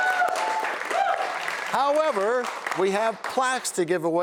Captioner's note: cheers and applause